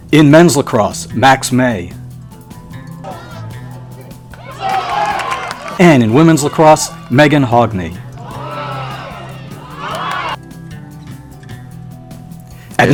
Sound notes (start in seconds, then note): 4.2 crowd cheering; 11.5 gentle upbeat music